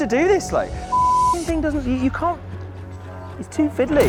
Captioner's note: beep!